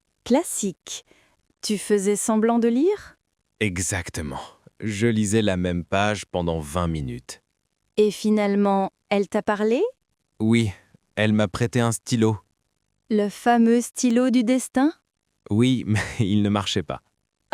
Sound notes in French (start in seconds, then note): 3.4 rire